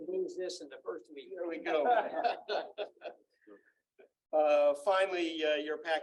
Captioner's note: laughter